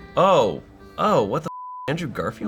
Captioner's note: beep